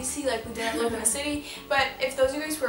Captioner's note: laughs